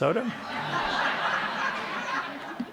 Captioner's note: laughter